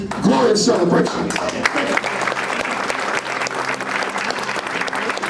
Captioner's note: crowd applauds